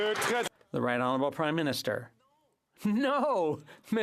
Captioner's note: some Applause